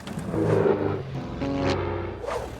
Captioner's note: plane engine roaring